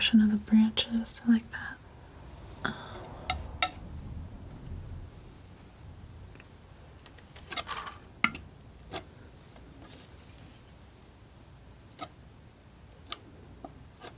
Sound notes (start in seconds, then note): 1.7 scratching